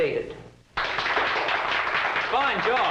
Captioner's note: applause